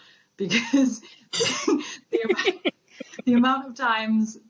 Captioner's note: both laughing